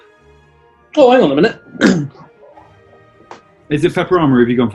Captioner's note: clears throat